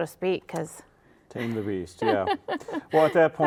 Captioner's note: laughs